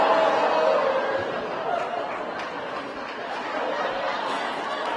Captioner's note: laughter